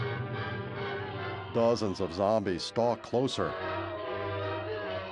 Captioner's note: groaning